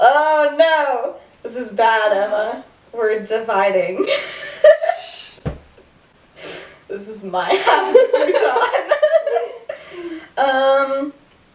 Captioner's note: laughter